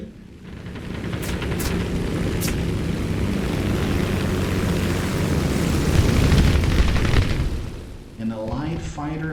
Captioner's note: aircraft Engines ,Gunfire, Flying Sounds